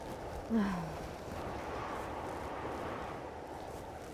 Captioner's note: Flower sighs